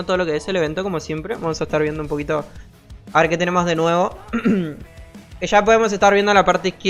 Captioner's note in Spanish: carraspeo